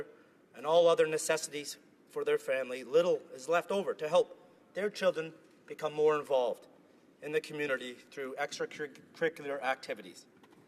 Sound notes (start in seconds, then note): none